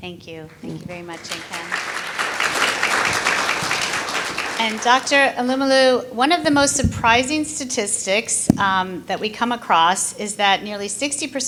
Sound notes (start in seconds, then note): 4.2 applause